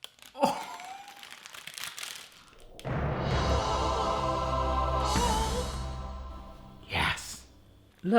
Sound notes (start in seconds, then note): 1.6 laughs; 2.8 triumphant music